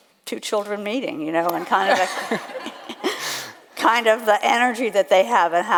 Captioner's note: laughs